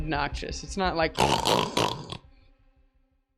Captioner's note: loud snort